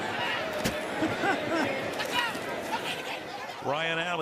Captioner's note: laughs